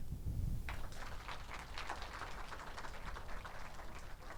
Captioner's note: audience applauds